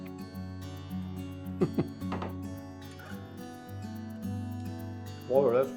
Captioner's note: laughs